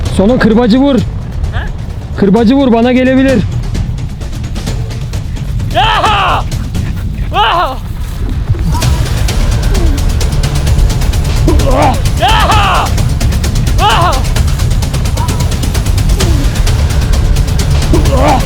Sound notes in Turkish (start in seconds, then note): 5.7 Çığlık atar; 8.3 Tansiyon müzik ve bağırma sesleri